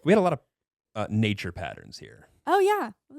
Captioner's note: laughing